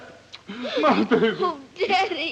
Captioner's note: kisses